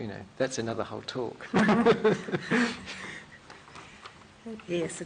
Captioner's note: laughter